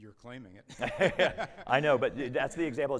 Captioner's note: both laughing